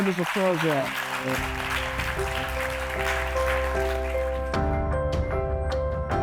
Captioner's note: attendees applauding; gentle music; gentle music continues